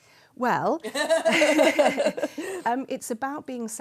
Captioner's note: laughter